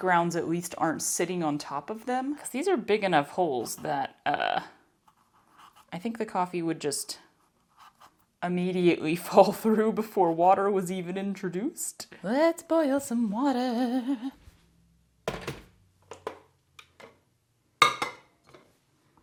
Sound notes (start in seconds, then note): 14.3 clunk. Click. Clink